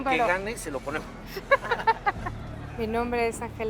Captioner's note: laughs